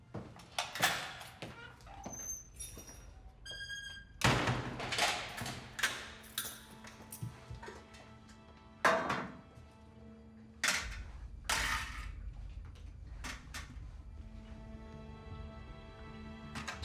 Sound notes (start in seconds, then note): 0.0 lock clicks; 0.8 door creaks; 3.7 lock clicks; 4.2 door slams